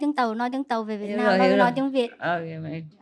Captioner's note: Vietnamese